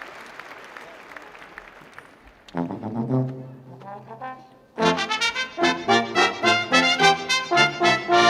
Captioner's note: cheering and applause